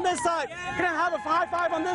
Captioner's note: cheering